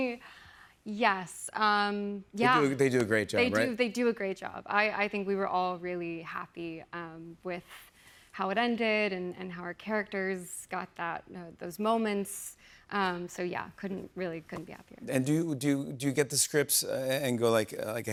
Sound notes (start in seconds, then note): none